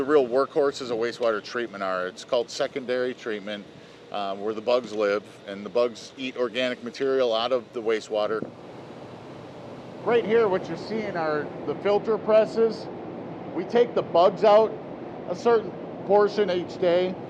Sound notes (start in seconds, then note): none